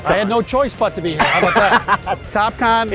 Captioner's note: laughs